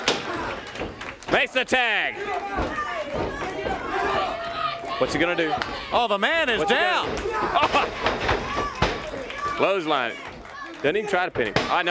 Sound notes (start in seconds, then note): 0.1 crowd cheering; 3.7 crowd chatter